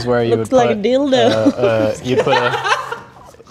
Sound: laughing

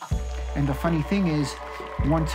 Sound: crowd laughing; audience cheering and applauding

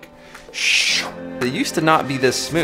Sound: swooshing

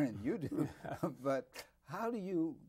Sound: both chuckle

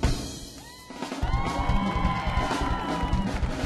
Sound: audience cheering; audience clapping; drums banging

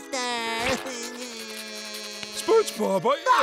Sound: crying

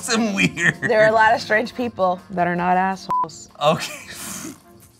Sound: beep

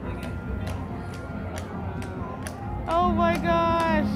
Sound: horse hooves click

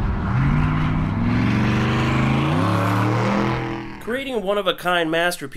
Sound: engine revving

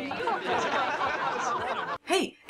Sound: haughty laughter

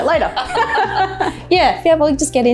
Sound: laughter

